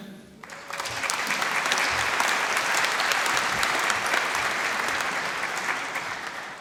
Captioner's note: applause